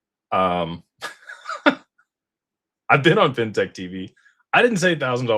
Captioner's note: laughter